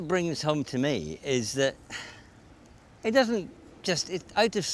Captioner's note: sighs